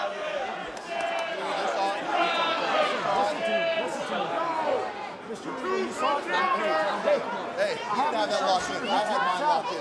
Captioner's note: crowd chatter